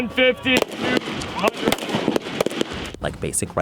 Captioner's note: gun firing